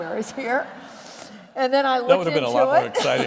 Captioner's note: laughter